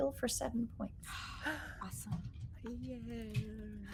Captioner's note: gasping